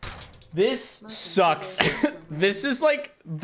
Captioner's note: laughs